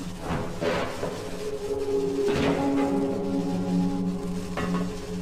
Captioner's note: distant clattering